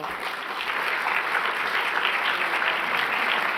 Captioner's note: applause